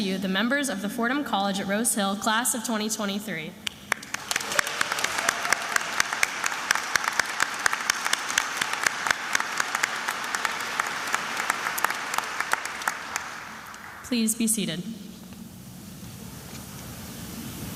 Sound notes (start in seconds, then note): 4.2 attendees applauding